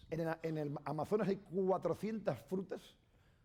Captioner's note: speaking spanish